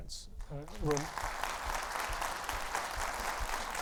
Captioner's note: audience applauding